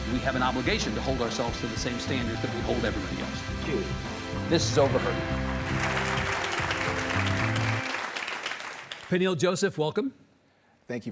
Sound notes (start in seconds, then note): 4.9 audience applauding; 5.6 soft music